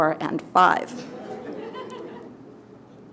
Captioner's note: audience laughter